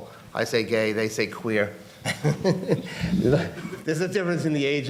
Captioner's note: laughs